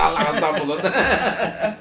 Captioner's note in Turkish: Gülme sesleri